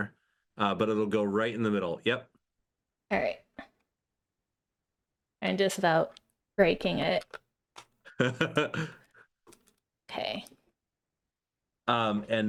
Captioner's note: laughing